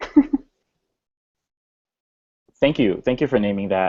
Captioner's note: laughs